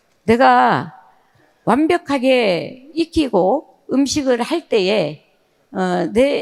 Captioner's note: speaking in foreign language